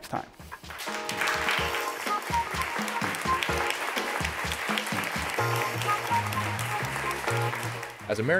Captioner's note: applause